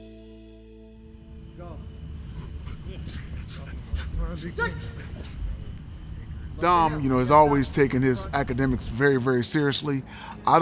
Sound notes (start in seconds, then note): 2.1 breathing heavily